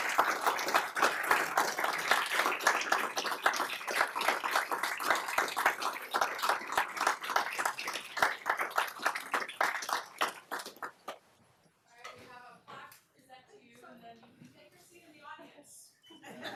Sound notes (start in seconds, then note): 8.7 applause